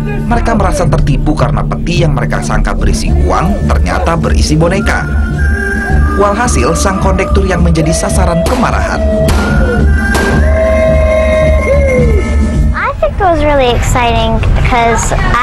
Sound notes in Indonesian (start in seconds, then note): 9.2 Shooting sound